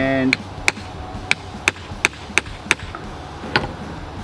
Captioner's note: hammer clacks